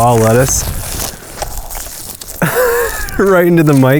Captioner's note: lettuce crunching; laughing